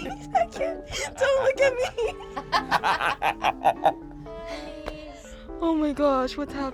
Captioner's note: laughs; group laughs